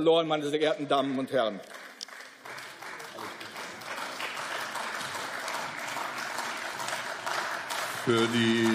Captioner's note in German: Beifall